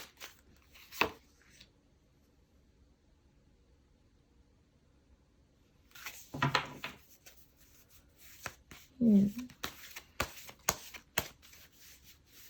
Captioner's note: drawing cards